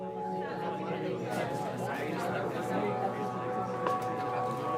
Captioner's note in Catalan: enrenou de converses